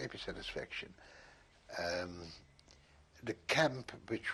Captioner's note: pauses for 3 seconds